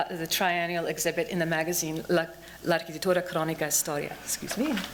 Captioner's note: non-english speech